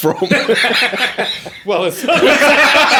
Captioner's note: all laughing